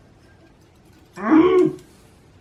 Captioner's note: muffled frustration